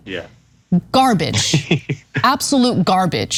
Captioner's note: laugh